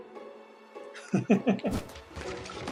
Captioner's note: laughs